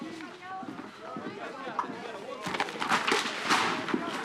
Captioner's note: detectives chattering indistinctly